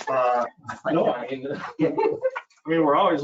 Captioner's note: both laughing